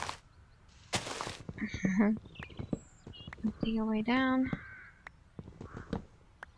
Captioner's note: laughs